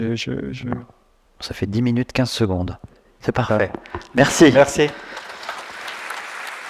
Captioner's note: round of Applause